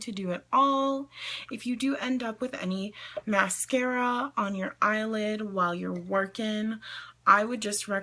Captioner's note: inhales